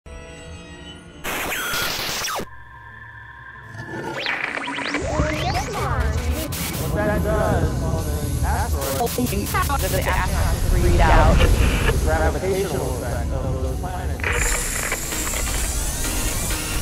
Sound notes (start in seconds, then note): 1.2 sound Effects